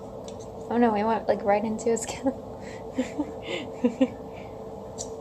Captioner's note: laughs